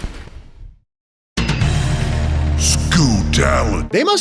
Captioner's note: crash; music sting; booming voice